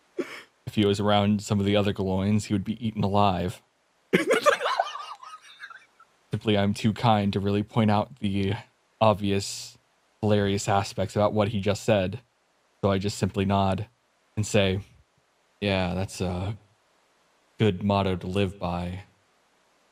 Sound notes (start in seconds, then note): 4.0 wheeze